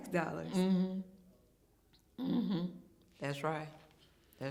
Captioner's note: hums in agreement